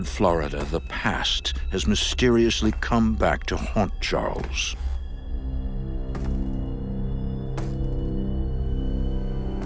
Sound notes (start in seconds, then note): 4.3 footsteps